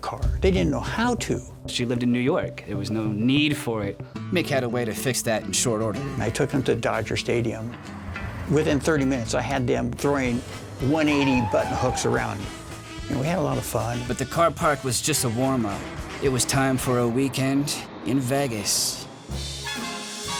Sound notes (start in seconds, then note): 13.1 tires screeching; 19.2 lively music playing